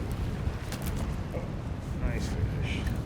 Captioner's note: fish thrashing